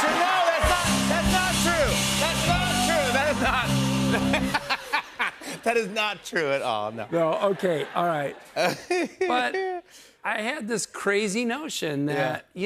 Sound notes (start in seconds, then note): 4.0 laughs